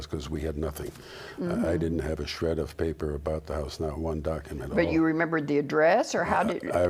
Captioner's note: sound of agreement